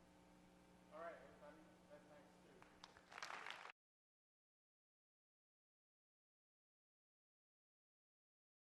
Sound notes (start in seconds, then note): 1.1 voiceover; 2.8 audience applauds